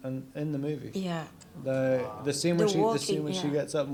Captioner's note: audience awws